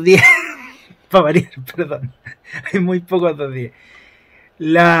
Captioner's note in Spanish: risas